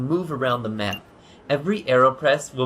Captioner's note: beep